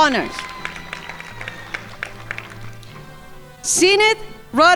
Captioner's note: crowd applauding